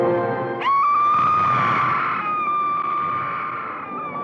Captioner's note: screaming